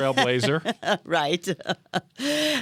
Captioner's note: laughter